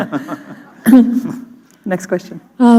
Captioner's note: chuckle